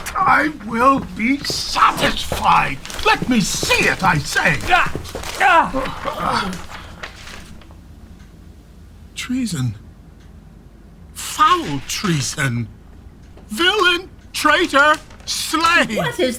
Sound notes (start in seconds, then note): 0.0 struggling; 4.6 grunting; 5.7 paper rustling